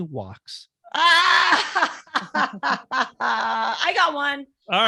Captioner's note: laughing